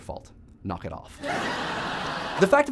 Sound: canned laughter

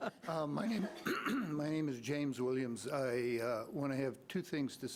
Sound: laughing; clears throat

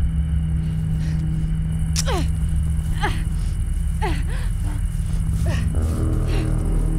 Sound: Jamie panting

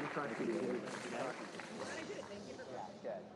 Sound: applause

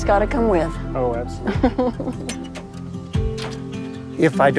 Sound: laughter; tailgate clangs open

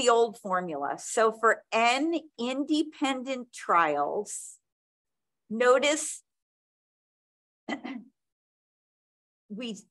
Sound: clears throat

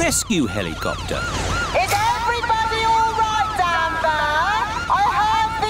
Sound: over megaphone

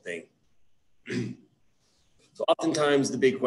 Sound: clears throat

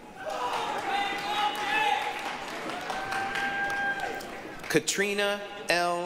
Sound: applause, cheering

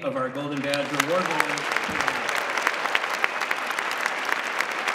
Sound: applause

